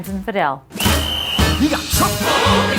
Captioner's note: whistle blows